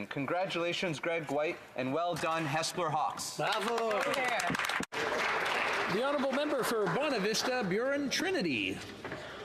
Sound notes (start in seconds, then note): 7.8 some Applause